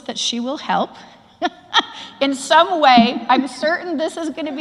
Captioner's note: laugh